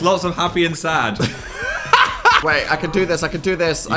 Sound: laughing

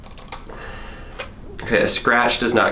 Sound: sighs

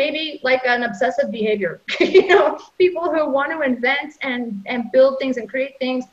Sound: laughs

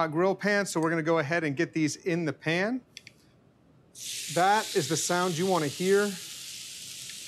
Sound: sizzle sound

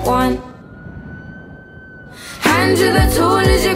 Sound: police siren

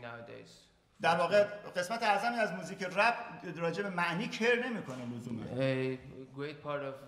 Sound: speaking in farsi

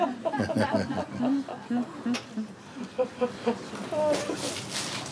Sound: laughter

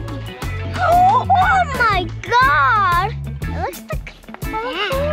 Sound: gasps

